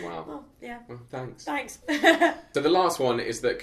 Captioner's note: laughs